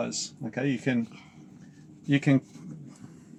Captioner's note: breathing